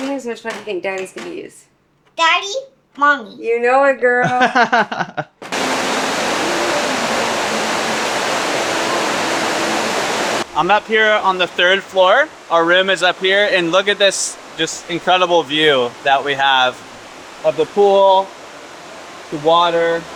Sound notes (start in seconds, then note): 4.2 laughing; 5.4 water rushing; 8.7 water rushing